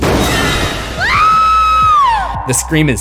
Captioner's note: screams